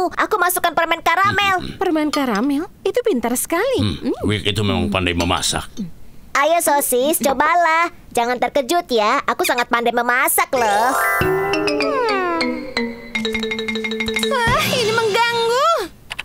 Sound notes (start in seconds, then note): 11.8 sighing; 14.4 yelling